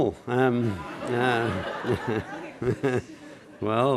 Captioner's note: laughter